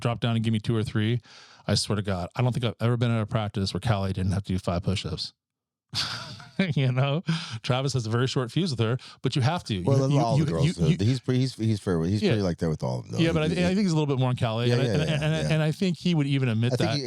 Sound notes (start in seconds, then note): 9.8 laughing